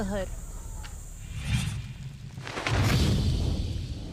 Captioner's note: whooshing